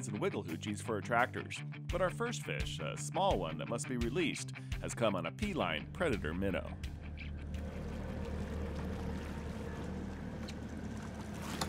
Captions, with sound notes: BUT OUR FIRST FISH, A SMALL ONE THAT MUST BE RELEASED, HAS COME ON A P-LINE PREDATOR MINNOW. (BOAT ENGINE IDLING) (FISH SPLASHING) (BOAT ENGINE IDLING)